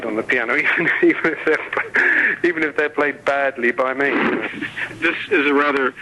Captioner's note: laughing